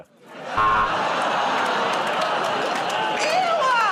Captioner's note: buzzer